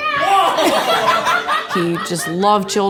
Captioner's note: laughter